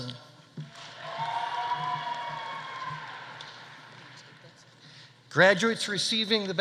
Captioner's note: audience applauding; audience cheering